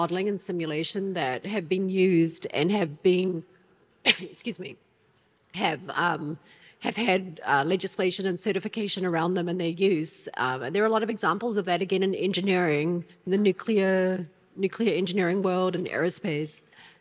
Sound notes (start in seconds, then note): 4.0 coughs